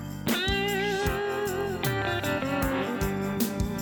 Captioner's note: none